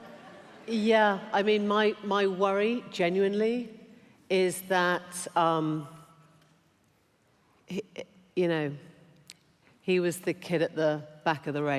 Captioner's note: laughter